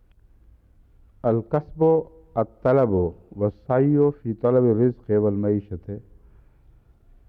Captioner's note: Arabic